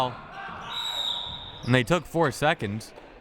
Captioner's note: whistle